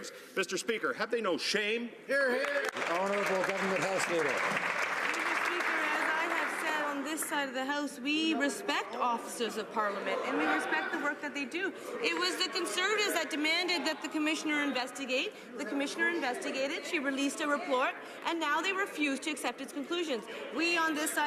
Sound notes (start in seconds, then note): 6.2 some Applause